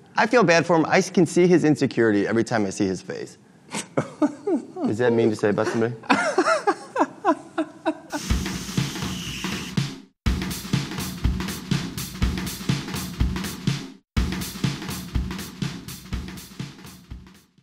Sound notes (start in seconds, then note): 3.8 laughing; 8.3 drum music